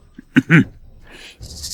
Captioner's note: cough cough